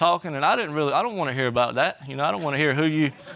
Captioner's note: audience laughs